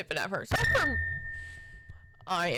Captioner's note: accidently hits mic